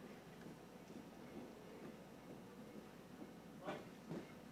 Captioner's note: soldiers marching